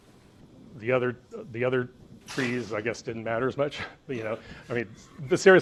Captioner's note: laughs